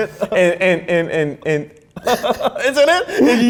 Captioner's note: laughs